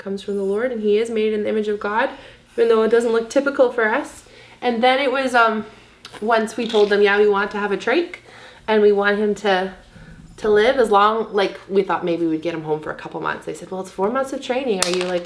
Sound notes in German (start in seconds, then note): none